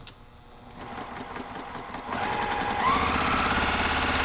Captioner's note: machine sewing